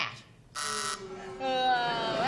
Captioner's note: buzzer; booing